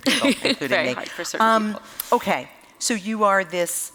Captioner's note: laughter